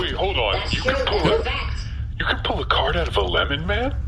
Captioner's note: laughing; quietly